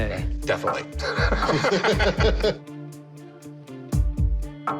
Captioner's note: chuckles